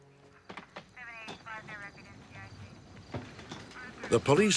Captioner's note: police radio